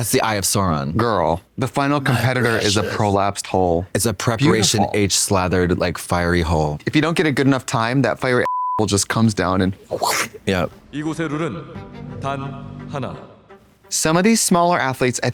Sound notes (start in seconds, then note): 8.5 beep; 9.7 slurping sound